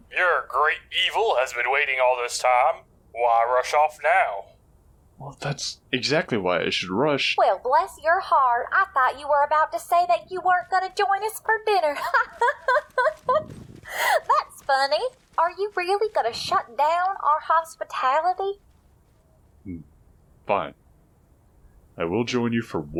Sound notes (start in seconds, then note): 12.0 laughs menacingly